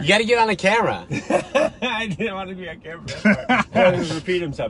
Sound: laughs

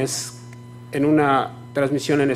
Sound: speaking foreign language

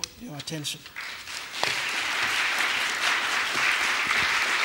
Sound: audience clapping

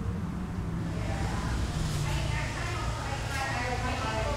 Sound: chatter

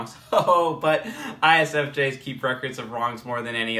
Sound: chuckles

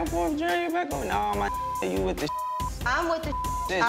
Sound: beep

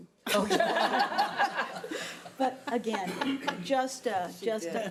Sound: all laughing

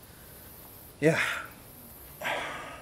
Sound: sigh

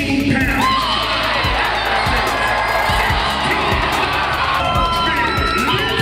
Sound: cheering drowns out announcer

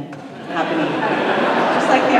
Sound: laughter

